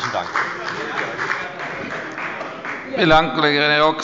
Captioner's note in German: Beifall bei der FDP